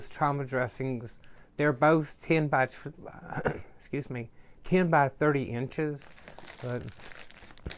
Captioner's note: coughs